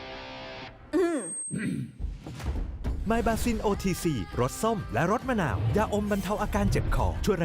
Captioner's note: clears throat